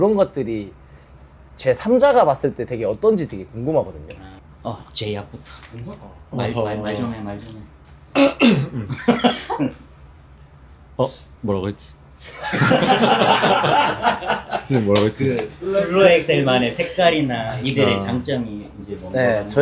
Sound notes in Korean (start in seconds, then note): 8.1 기침; 8.1 목을 가다듬음; 12.2 웃음